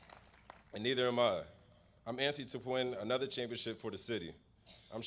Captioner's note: applause